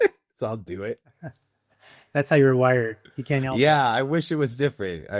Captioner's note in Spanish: Ríe